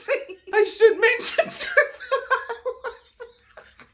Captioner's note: laughing